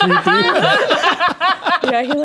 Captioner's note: players laughing